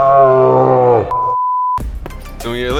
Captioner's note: dramatic music; high pitched beep; upbeat R&B music